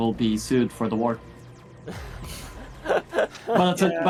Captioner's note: sci-fi trilling sounds; laughing